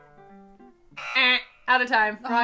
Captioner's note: mimicking buzzer; buzzer alarming